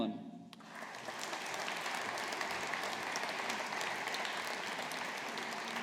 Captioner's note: audience applauding